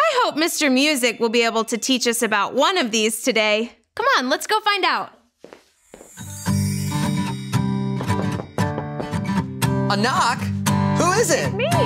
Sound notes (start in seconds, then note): 6.1 bright music; 8.8 knocking on door